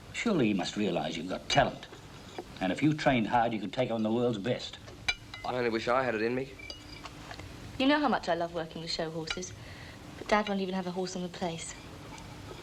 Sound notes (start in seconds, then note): none